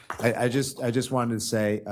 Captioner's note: applause